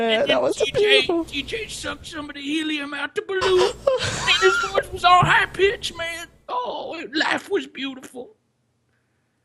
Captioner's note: funny voice again